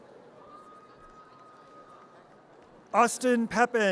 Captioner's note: audience cheers